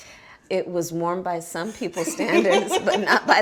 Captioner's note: laughs